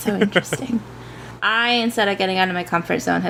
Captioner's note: laughs